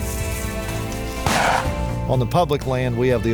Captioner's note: shooting